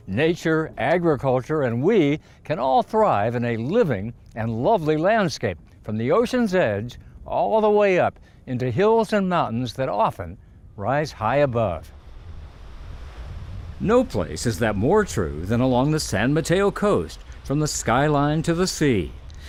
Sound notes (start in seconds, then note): 12.0 waves crashing